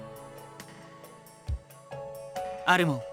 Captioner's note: silence